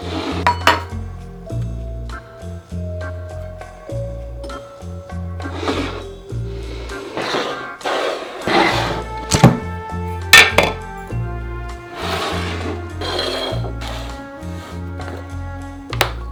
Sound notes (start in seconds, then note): 7.7 bowl sliding